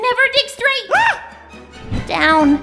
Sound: scream

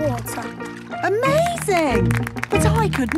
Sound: clapping

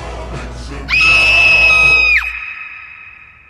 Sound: scream

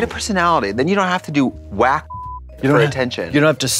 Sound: beep

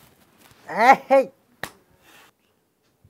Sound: smack

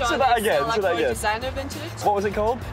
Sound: speaking foreign language

